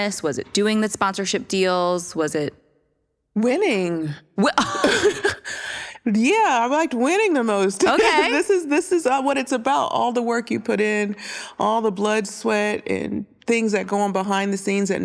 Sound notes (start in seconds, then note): 4.6 laughter; 7.8 giggles